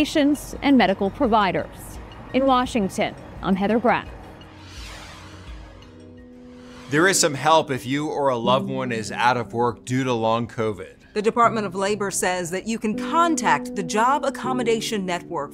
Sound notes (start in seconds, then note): 4.2 whooshing; 4.6 ambient upbeat music